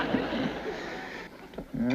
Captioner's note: chuckles